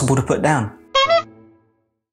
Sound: horn honking

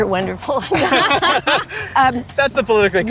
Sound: group laughing

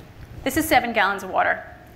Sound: none

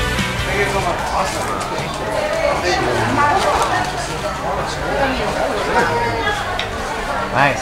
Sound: people chatting indistinctly

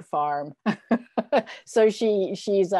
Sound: laughs

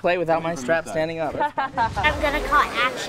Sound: laughs

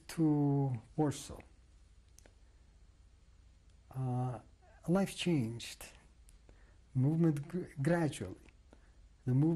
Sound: pauses for 3 seconds

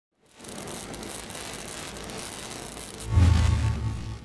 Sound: welding metal

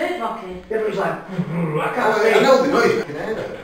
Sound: growling noise

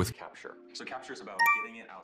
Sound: phone notification chimes

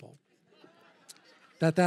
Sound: laughter

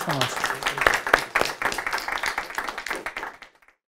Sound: applause

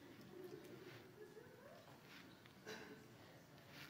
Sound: audience laughing

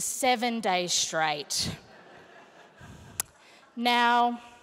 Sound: laughter

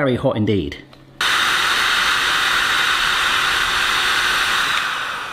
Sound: heat gun motor roaring

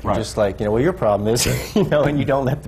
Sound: laughs

